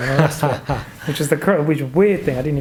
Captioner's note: laughs